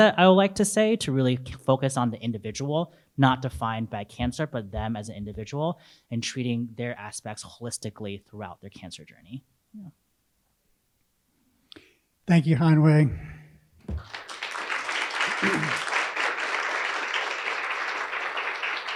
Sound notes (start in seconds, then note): 13.9 audience applauding